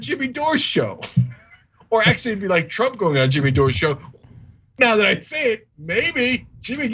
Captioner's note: laugh